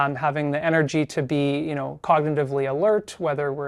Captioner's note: none